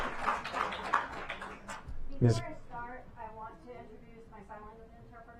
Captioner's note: applause